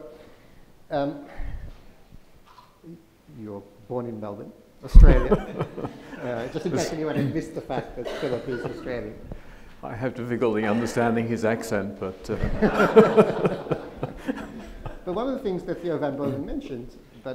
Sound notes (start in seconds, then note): 12.4 audience laughs